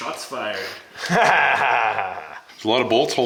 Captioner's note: laughing